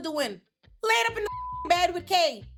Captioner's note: beep